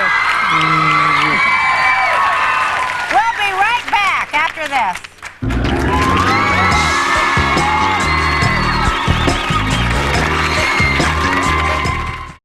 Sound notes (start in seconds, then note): 5.4 audience cheering; 5.4 groovy bass music